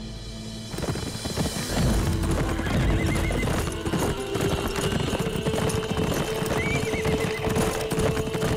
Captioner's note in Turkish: At nalı sesleri